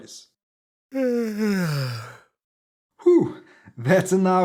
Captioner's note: cat yawns